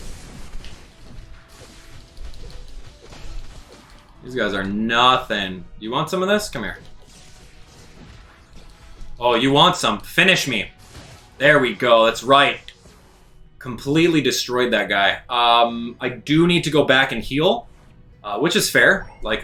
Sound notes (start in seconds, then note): 0.0 fighting sounds; 6.5 fighting sounds